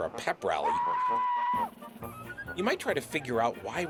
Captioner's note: yelling